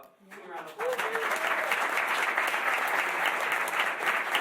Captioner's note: applause